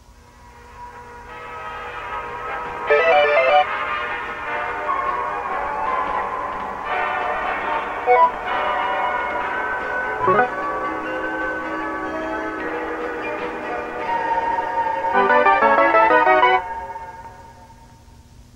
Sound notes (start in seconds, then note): 0.3 faint upbeat jazz music; 3.0 electronic chirping; 8.1 electronic chirping; 15.3 triumphant jingle